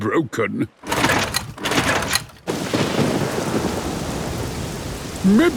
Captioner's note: engine struggling